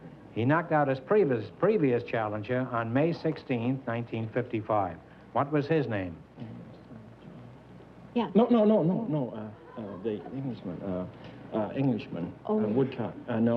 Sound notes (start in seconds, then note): 6.3 whispering